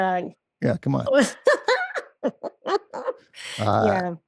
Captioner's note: both laugh